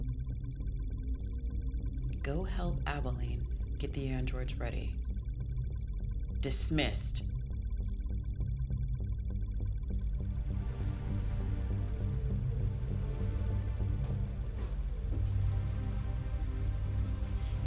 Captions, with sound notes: - Go help Abilene get the androids ready. Dismissed. (tense music) (computer trilling)